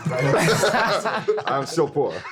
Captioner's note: everyone laughing